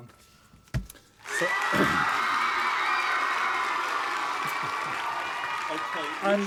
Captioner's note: applause